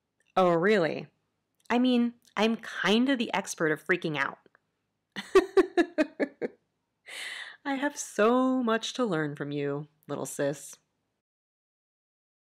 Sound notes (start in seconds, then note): 5.2 laughs